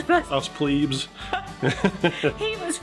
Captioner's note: laughing